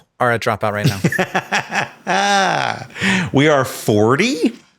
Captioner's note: Sam laughing